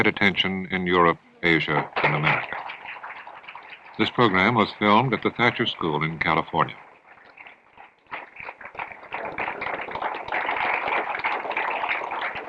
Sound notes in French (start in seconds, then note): 7.2 Applaudissements